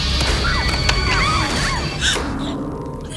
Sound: screams; gasping

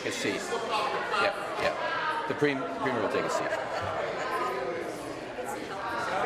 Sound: voice trailing

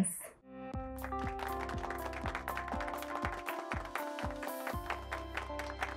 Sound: upbeat music; hands clapping

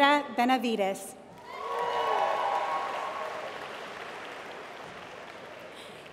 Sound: applause

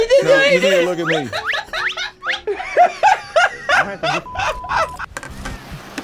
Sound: both laugh

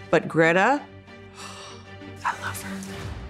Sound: sighs

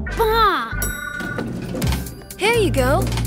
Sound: elevator dings

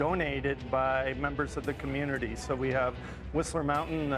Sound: voiceover

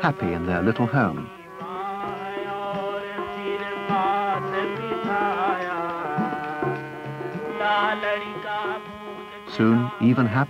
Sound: puppets dancing, crowd reactions

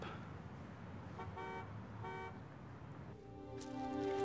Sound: car horn honks; tense music

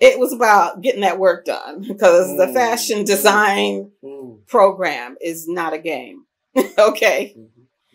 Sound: laughs; laughs

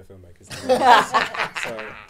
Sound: audience laughing

